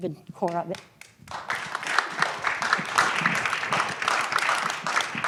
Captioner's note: applause